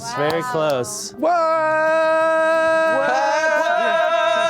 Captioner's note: yelling